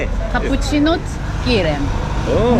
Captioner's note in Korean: 헝가리어